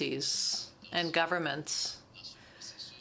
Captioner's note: speaking french